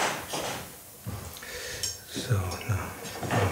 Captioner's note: quietly